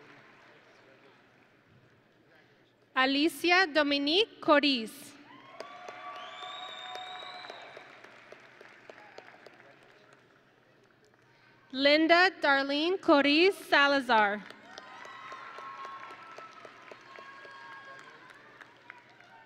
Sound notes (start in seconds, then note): 0.0 audience and graduates applauding; 5.3 audience and graduates cheering; 14.6 audience and graduates cheering